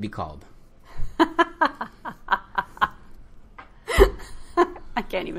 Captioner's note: laughing